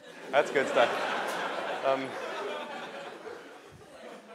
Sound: laughter

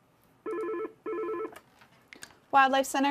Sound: phone ringing

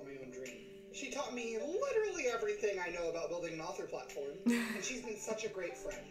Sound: chuckles

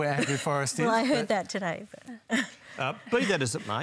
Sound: laughs

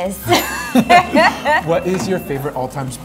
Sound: both laugh

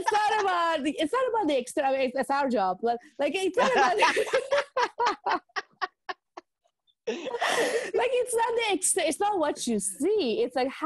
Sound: laughing

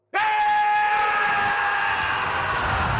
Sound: yelling

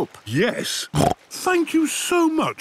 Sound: snorts

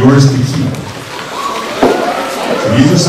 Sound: kids gasping excitedly

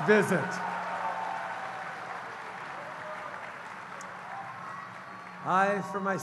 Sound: cheers & applause

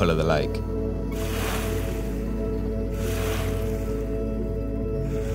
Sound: water lapping

